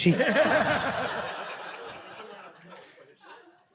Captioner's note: group laughing